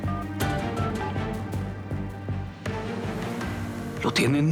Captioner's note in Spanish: sonido al marcar